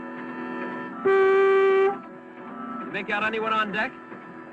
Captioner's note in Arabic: صوت بوق